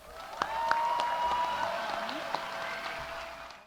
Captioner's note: audience cheering